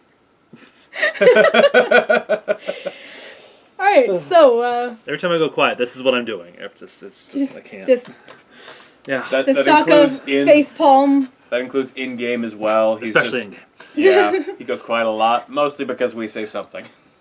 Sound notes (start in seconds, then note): 0.9 laugh; 6.8 stammering; 16.8 laugh